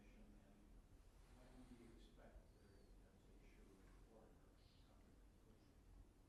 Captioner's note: speaks faintly